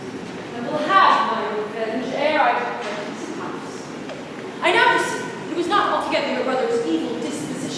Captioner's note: storm fades